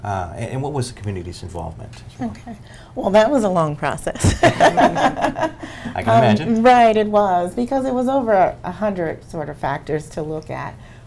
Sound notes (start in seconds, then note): 4.2 laughs